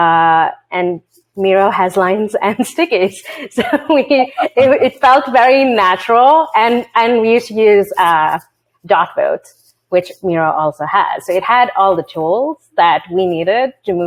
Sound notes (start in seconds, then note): 4.2 laughs